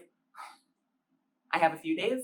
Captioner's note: exhale